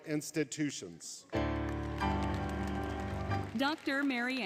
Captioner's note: applause, Music